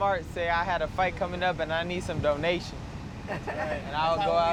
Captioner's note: laughter